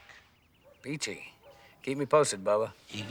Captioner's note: laughs